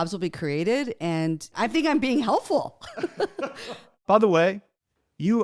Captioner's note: both laugh